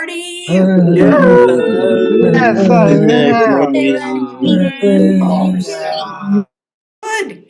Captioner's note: cheering